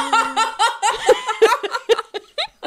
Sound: both laughing

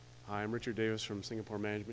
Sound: voiceover

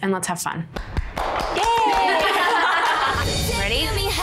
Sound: applauds; all laugh

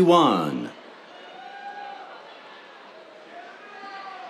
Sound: cheers

